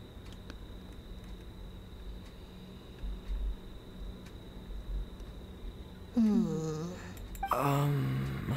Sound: groaning

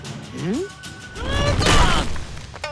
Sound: yells

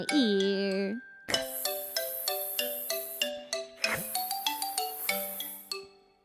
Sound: hissss hissss hissssssss

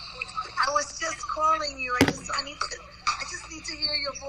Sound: mom On Phone

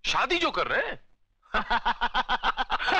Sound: laughing

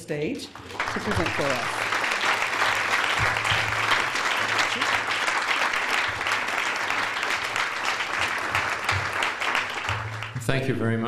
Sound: applause

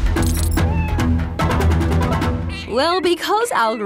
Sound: meowing

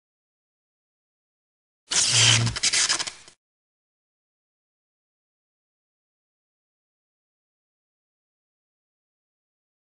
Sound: sparking sound

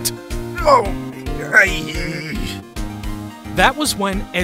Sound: surprised grunt

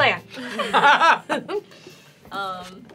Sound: laughter at expense

